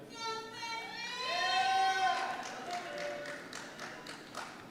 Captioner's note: cheers and Applause